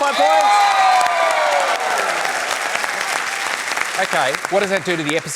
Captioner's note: cheering, applause